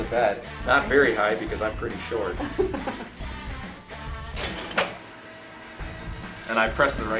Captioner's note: laughter